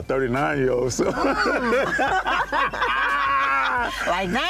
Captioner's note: laughter